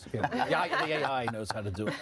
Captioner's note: laughing